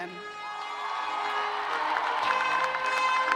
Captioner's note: cheers and applause